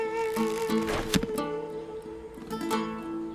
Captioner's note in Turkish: Ok fırlatma sesi